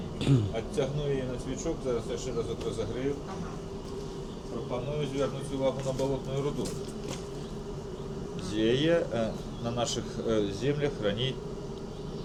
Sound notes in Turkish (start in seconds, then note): 0.2 boğazını temizler